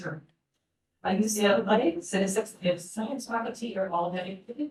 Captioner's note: speaking faintly